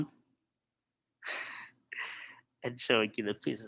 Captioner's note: laughs